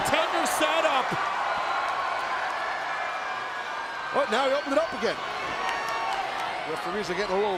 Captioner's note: applause